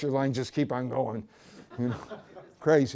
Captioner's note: laughter